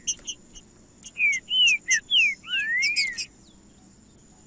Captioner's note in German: trinca ferro cantando